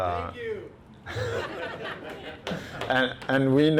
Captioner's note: laughing